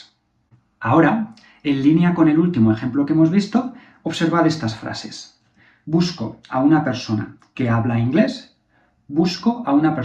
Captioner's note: habla